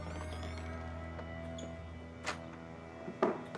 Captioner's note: mysterious music; door creaking